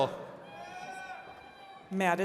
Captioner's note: attendees cheering